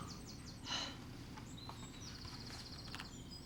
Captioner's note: sighs